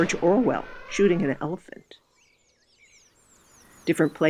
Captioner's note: gun shoots; elephant trumpets